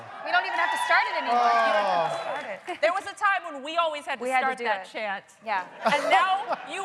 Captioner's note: chanting "lower decks"